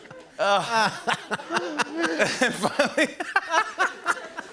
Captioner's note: laughing; laughs